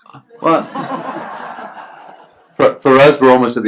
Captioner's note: laughs